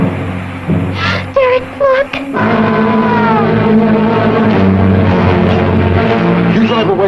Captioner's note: car rumbling; she gasps; menacing music